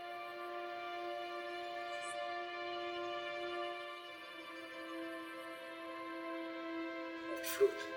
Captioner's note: whispering